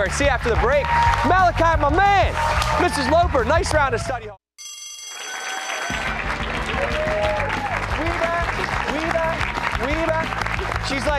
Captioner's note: bell rings